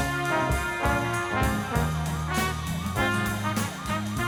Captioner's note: sirens wailing